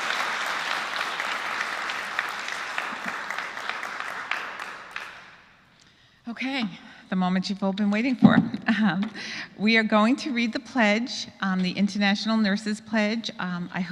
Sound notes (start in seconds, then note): 0.0 applause; 4.6 laugh